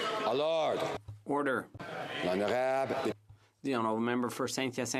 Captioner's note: some Applause